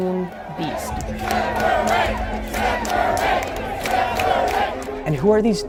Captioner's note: chanting